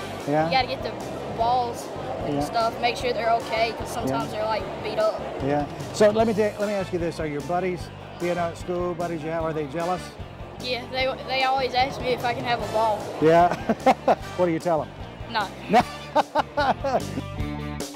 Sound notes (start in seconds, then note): 13.4 laughs; 15.7 laughs